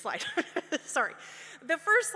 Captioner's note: laughs